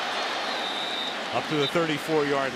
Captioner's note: whistles